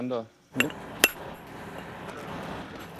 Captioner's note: distant excavator humming